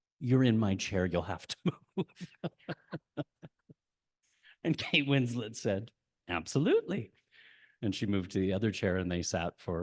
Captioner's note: laughs